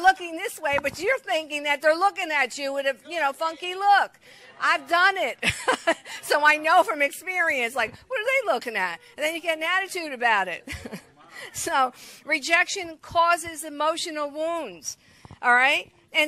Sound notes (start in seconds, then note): 5.4 laughs; 10.6 chuckles